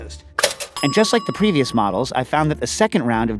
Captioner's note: bell pings